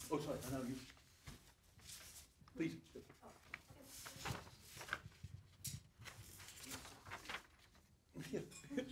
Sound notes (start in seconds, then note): 4.3 paper rustling